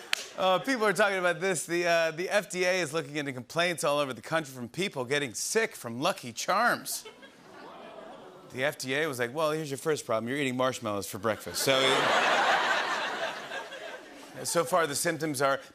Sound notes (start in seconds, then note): 7.1 audience oohs; 11.4 laughter